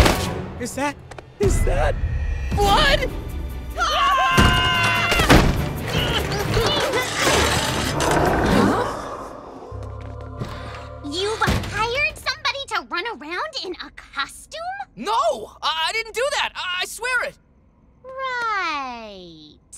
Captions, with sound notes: Is that, is that... blood? [screaming] [grunting] Huh? You hired somebody to run around in a costume? No, I didn't do that. I swear it. Right.